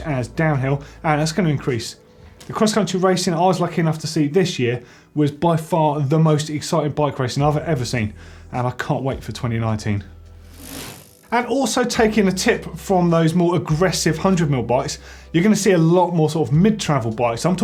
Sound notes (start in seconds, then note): 10.4 bike chain whirring